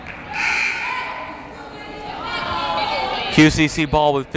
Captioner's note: buzzer blaring